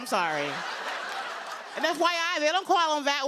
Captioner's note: laughter